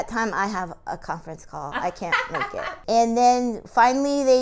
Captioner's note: laughing